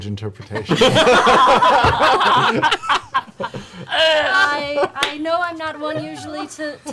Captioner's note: laughter